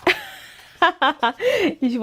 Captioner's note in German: Gelächter